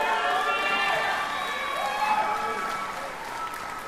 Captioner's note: applause